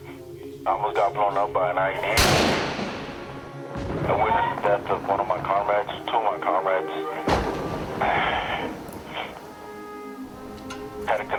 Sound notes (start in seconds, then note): 2.1 explosion; 7.2 explosion; 7.5 sighs